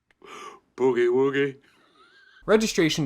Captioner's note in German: lacht